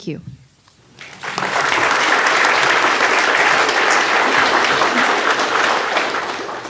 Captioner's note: audience clapping